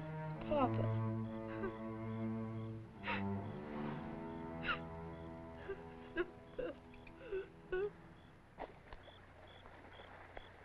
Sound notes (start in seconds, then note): 1.3 sobbing